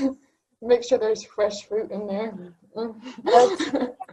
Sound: laughing

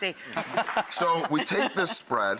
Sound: laughing

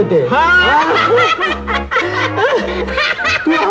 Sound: laughs

